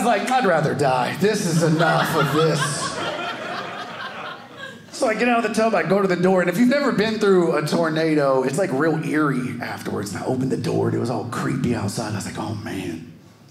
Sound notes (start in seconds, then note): 1.0 audience laughing